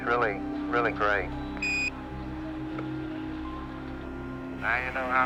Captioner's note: device beeps